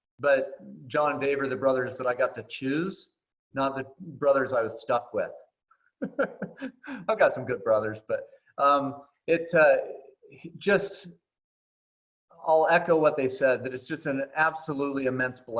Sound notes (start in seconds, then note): 6.0 laughs